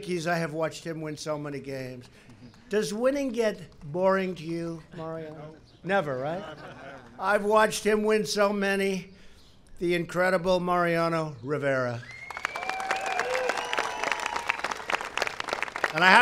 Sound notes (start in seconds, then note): 6.1 laughter; 12.1 applause